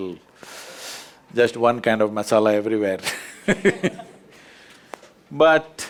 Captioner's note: laughter